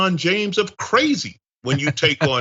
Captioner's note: laugh